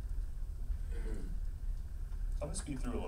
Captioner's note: clears throat